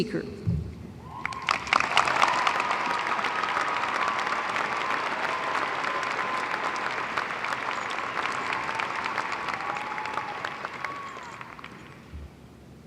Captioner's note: applause